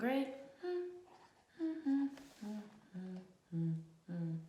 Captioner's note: teacher humming